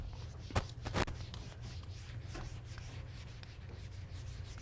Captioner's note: papers rustling; eraser rubbing